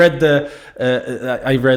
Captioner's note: laugh